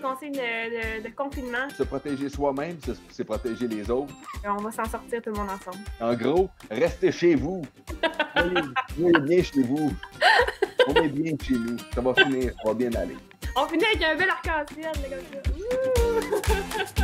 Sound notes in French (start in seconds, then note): 8.0 rire